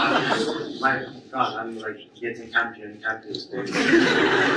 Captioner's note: audience laughs